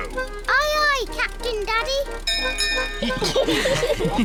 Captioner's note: bell rings; all laugh